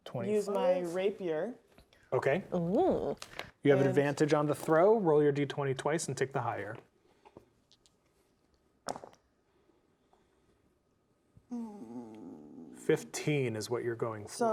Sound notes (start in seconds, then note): 0.0 quietly; 8.9 dice rolling